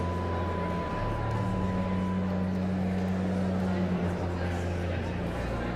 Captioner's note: pensive organ music continues; audience chattering continues